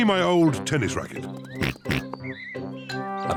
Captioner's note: oinks